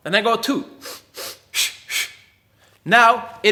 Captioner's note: air hisses